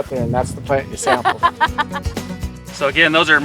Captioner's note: laughs